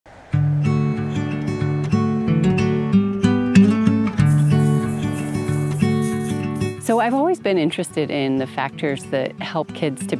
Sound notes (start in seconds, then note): 0.4 upbeat, acoustic music; 4.2 sprinkler